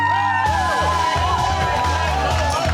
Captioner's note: cheering